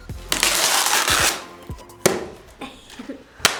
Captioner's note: ripping sound; clapping